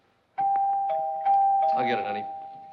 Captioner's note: doorbell rings